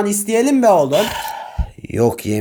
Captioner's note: sigh